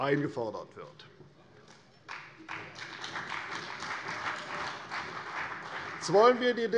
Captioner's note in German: Beifall CDU